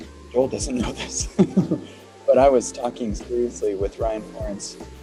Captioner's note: laughs